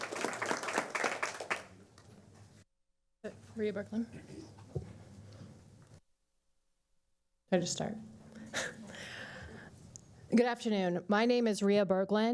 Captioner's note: applause